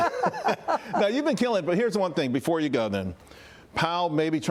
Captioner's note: laughter